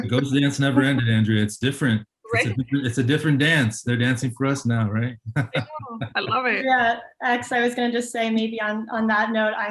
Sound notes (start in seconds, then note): 5.0 laughs